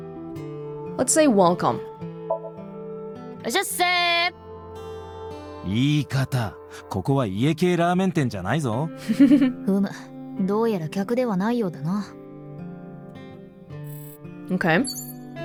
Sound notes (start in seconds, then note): 9.0 chuckles